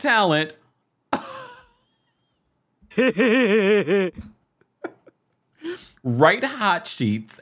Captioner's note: laughs; plays goofy laugh